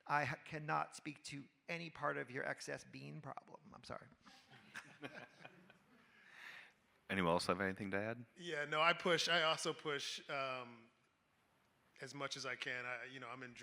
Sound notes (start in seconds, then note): 4.5 panelists and audience laughing